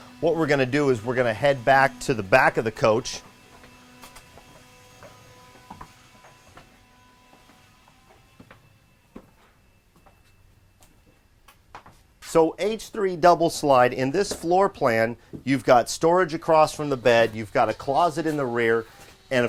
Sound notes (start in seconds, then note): 4.8 machines whirring